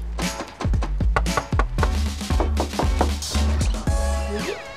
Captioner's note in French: Il frappe à la porte